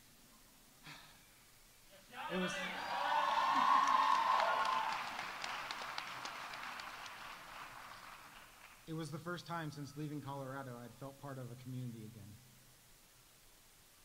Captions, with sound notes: -(audience cheering) -(audience applauding) It was the first time since leaving Colorado I had felt part of a community again.